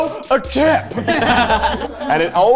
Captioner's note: all laughing